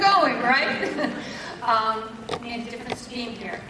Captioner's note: laugh